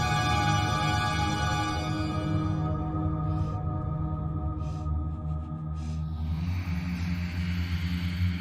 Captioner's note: breathing heavily